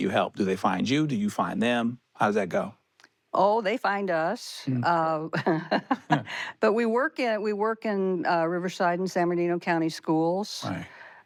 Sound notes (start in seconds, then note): 5.3 she chuckles